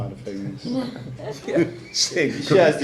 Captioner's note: laughing